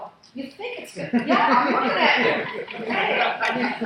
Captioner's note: laughing